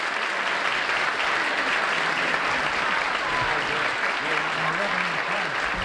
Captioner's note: applause